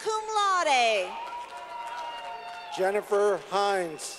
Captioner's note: clapping